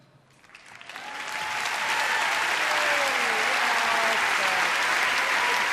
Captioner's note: audience cheering and applauding